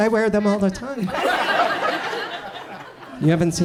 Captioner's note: audience chuckles